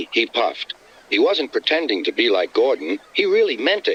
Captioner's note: through a voice box